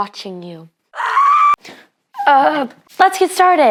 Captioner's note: screaming